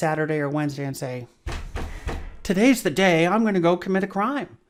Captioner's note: bangs on desk